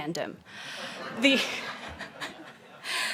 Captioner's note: laughing